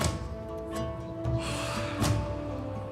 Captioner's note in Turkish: İç çekiyor